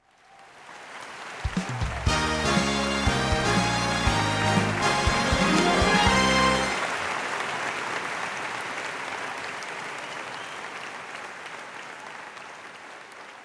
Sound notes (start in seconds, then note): 0.3 audience clapping; 1.8 upbeat music; 7.1 clapping continues